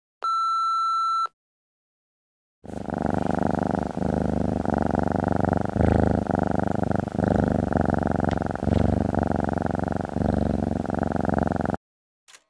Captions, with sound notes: (Beep~~~) The Answer is ....... (Purr~~~~~~~~~~~~)